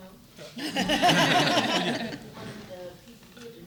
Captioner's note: laughter